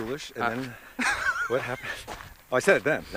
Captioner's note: Sean laughs